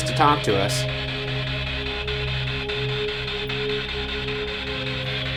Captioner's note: spirit box crackles